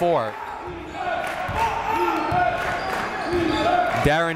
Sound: crowd

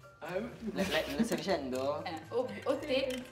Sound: laughs

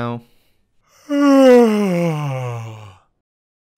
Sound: yawn

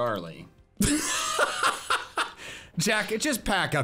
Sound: laughing

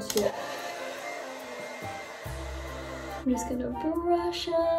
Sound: blow dryer whirring

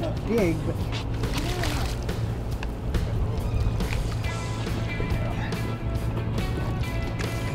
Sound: water splashing

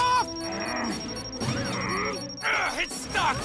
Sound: fast beeps

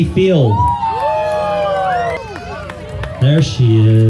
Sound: cheering

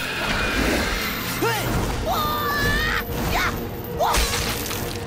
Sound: grunting

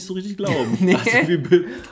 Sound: laughs

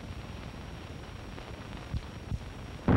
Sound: gun shot

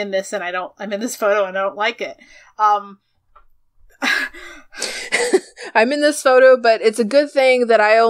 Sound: laughs

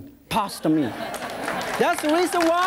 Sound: audience laughs

